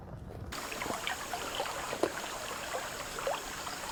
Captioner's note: water babbling